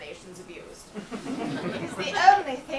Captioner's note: audience laughs